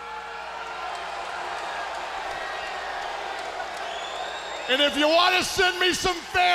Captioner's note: crowd cheering